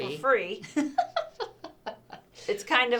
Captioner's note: laughter